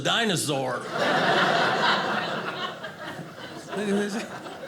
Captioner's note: audience laughing